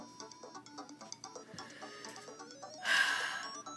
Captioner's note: deep breath; exhale